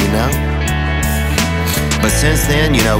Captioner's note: Theo sniffles